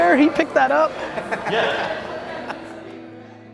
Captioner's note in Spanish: se ríe